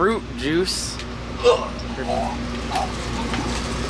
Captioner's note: groans and continues to vomit